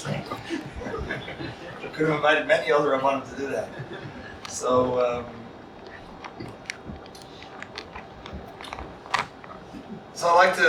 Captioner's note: laughter